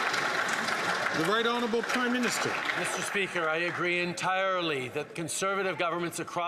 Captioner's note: some Applause